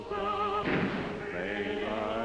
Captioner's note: gunshot